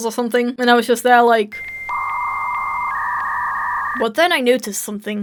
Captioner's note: dial up sound